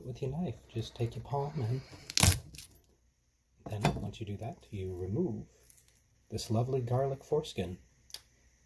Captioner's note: crunch